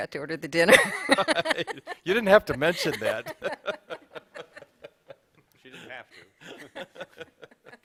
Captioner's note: laughter; laughter